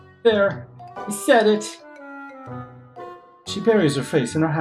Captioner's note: none